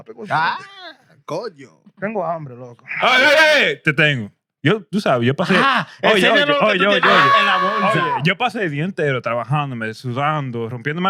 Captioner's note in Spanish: Hablando en idioma extranjero